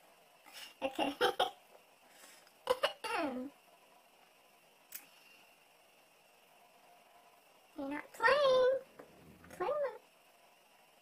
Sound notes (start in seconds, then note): 2.6 laughs; 2.7 clears throat